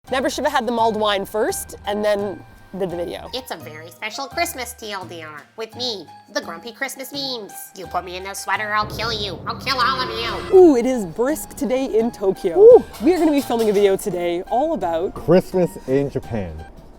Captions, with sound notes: Never should have had the mulled wine first and then did the video. [Meemers voice] It's a very special Christmas TL;DR with me, the grumpy Christmas Meems! You put me in a sweater or I'll kill you, I'll kill all of you! - Ooh! It is brisk today in Tokyo. - Ooh! - We are gonna be filming a video today all about... - Christmas in Japan.